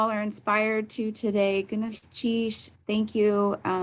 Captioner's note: speaks Tlingit